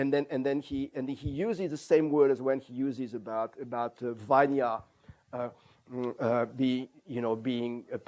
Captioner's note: non-english